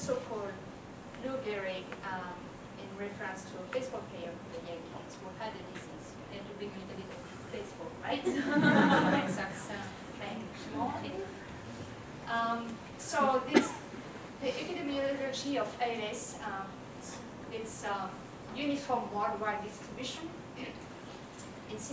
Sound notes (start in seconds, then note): 15.4 laugh